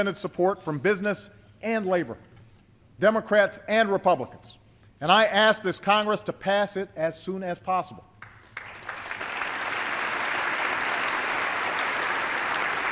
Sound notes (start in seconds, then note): 8.2 applause